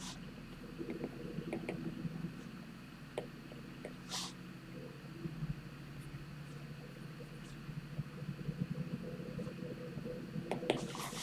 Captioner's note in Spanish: resoplido